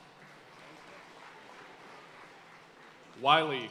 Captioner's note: audience cheering and applauding